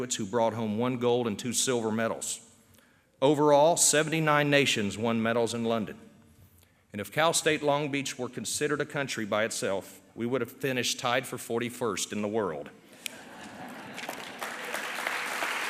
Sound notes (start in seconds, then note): 13.0 laughter; 13.5 applause